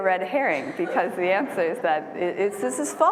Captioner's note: laughter